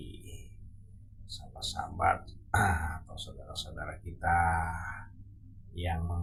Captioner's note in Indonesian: berdehem